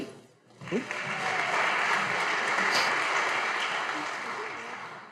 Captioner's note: audience applauding